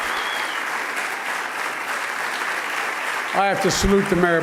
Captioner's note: applause